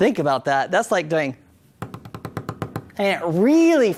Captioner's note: tapping noise